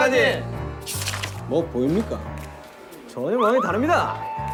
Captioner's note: mysterious footstep